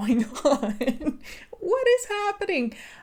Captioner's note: chuckling